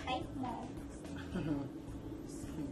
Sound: Rodel chuckles

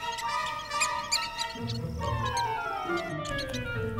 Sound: prairie dog chatter

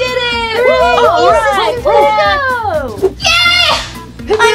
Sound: everyone cheers

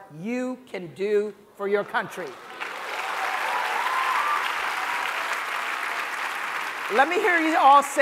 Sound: applause

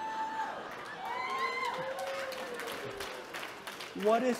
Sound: audience cheering and clapping

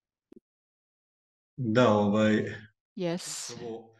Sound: non-english speech

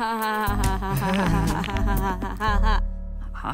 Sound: laughs; cracks knuckles

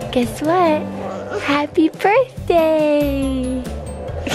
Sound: laughs

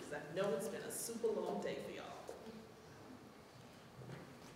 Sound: none

